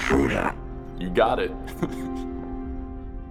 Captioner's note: chuckles